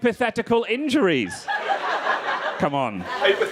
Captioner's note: crowd laughing